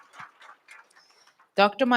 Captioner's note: audience applauds